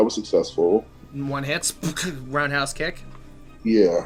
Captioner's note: fight sounds